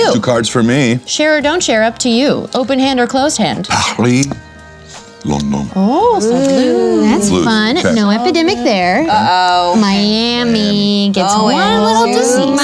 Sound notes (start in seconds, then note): 3.9 mimics french accent; 5.1 deepen voice